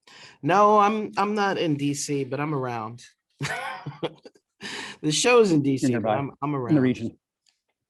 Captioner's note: laughter